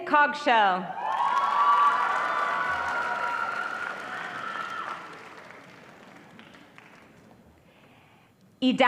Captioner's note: audience cheering and applause